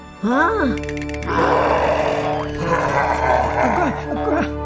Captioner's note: roaring